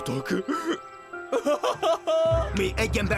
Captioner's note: moaning